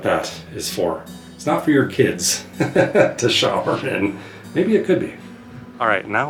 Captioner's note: laughs